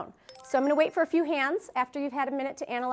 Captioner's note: chime